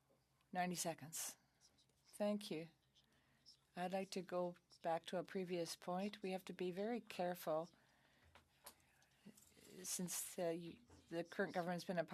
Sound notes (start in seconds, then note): 1.0 speaking French